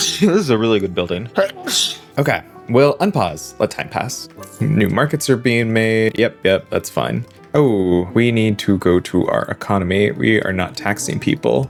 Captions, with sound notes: (gurgling) This is a really good building. (gurgling) Okay, well unpause, let time pass. New markets are being made, yep, yep, that's fine. Oh, we need to go to our economy, we are not taxing people.